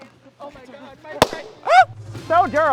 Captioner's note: balloon pops; gasps